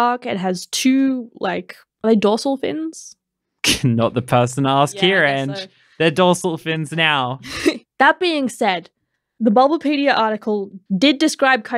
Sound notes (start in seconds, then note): 3.9 laughing; 7.8 laughing